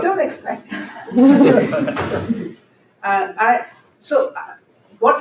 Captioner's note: laughter